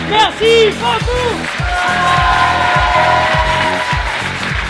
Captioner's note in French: applaudissements